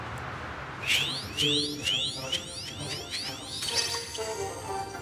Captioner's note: screaming; squeaking